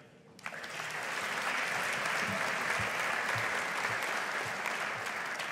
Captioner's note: audience applauding